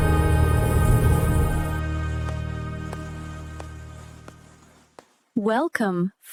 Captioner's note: footsteps